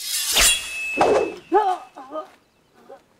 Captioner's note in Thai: เสียงกระบี่; เสียงกลัว